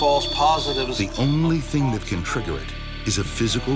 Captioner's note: voiceover